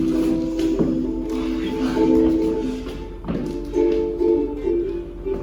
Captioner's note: whispering exclamations